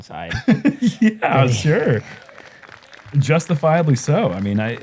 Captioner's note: laughs